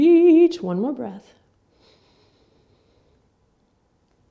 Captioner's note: inhaling